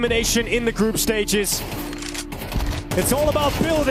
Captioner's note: gunshots ringing out